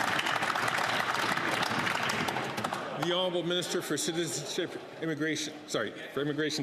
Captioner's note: some Applause